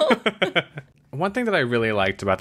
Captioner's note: laughs